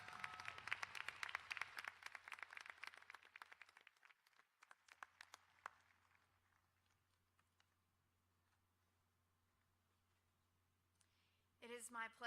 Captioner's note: applause